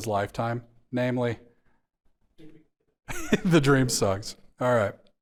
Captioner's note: chuckles